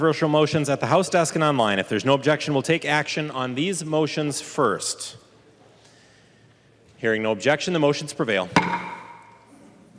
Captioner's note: gavel